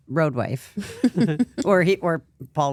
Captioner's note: Stephanie giggles; laughs